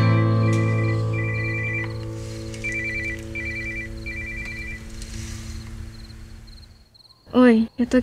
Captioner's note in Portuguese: celular tocando